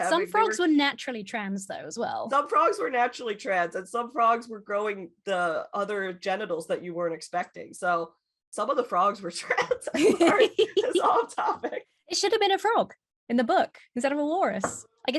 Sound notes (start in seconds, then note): 9.6 laughing